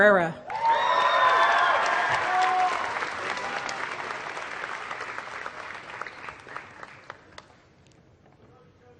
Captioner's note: applause